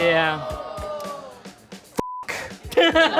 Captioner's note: audience groans; beep; laughter